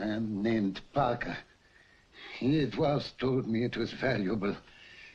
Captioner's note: none